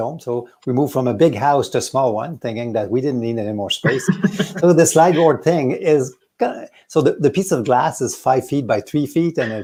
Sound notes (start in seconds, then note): 3.8 laughs